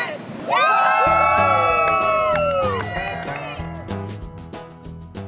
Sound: cheering and clapping

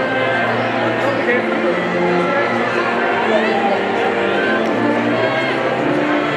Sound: people chattering indistinctly

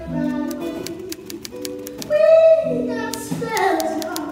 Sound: typewriter taps

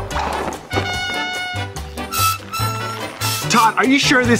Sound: horn blowing

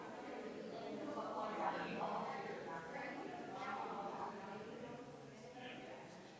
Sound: people chattering distantly continues

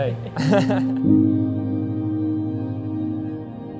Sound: laughing

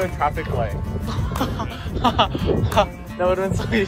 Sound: laughter

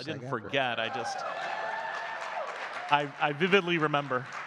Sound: audience clapping and cheering

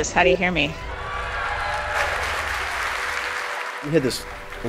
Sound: applause

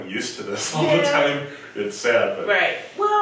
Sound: laughs

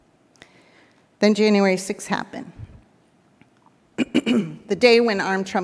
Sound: clears throat

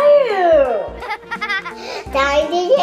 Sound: laughter

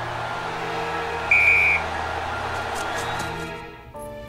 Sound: whistle

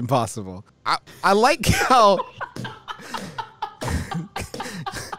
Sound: laughs

